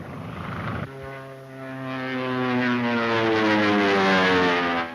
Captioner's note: plane engine roars